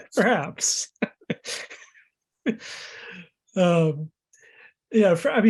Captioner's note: laughing; laughs